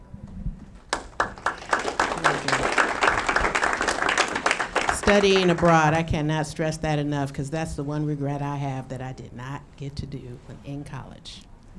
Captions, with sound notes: (audience clapping) Studying abroad, I cannot stress that enough 'cause that's the one regret I have that I did not get to do in college.